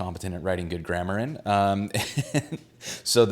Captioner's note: laughs